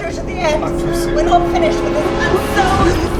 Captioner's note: mumbling and screaming